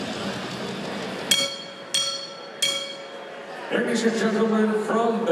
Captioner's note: bell ringing